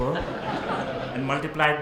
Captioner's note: audience laughs